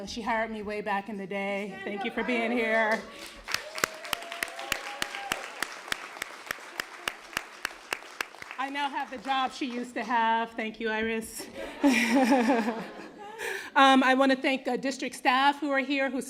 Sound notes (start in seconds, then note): 2.8 applause; 11.4 laughter